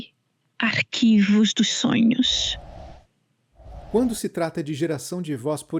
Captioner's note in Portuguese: som de transição